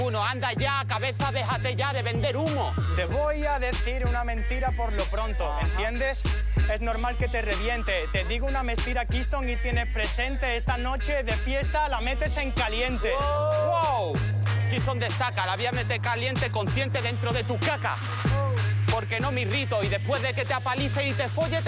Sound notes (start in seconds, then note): 12.9 shouts